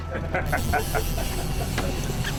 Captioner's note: guide laughing; reel clicking